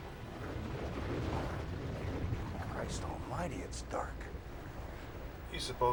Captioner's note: churning Sound